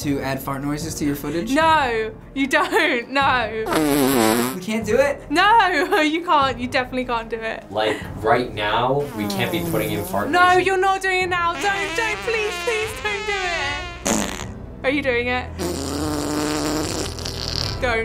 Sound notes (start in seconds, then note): 3.6 long fart; 9.0 farting; 15.5 loud fart